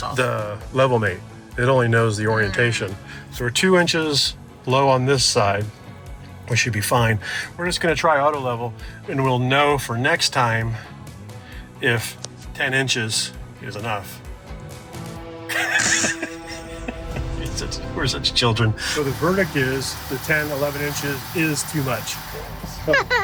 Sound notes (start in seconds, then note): 15.5 both laughing; 22.8 laughs